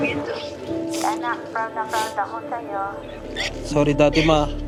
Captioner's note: mom, in English; in Tagalog; sniffles